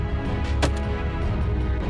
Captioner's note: gun shot